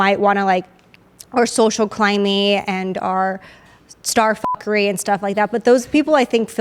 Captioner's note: beep